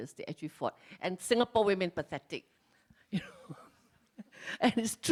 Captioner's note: laughs